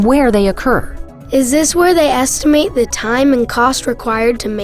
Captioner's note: voiceover